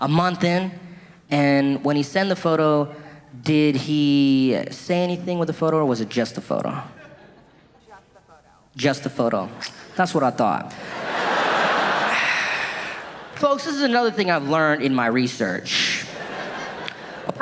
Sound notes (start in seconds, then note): 10.6 audience laughing